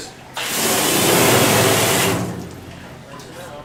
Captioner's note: water crashing